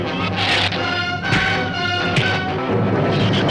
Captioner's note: fist thuds; shrews chatter